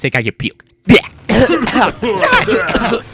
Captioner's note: cough; coughing